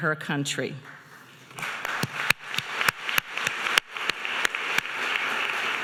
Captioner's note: audience applauding